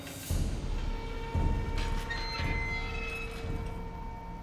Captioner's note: hinges creaking